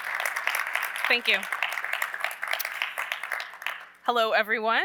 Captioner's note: applause